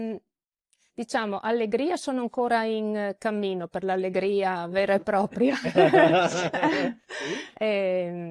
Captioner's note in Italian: risate